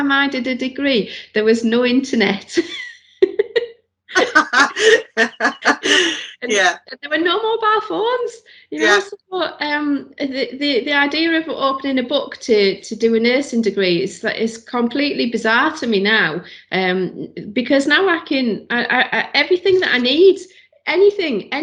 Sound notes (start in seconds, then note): 4.1 laughs